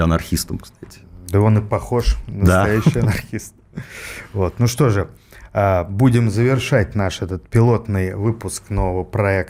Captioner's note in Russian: смех